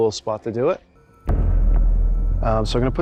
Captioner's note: boom sound effect